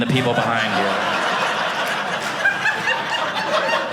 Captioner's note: audience laughing